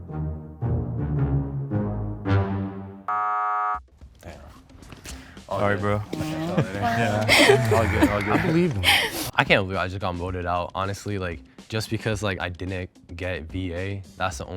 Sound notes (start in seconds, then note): 0.0 jovial music; 3.1 buzzer buzzing; 8.7 laughing